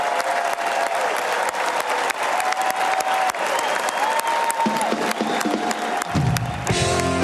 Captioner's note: cheers and applause